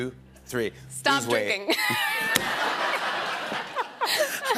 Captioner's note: laughter